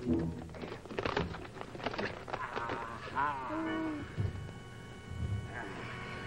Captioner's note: creaking